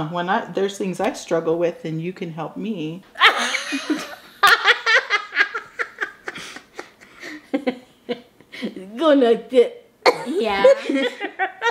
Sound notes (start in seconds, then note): 3.1 all laughing